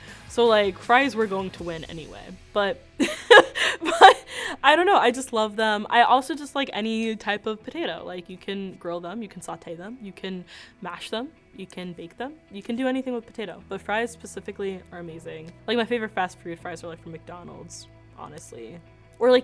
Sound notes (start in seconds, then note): 3.0 laughs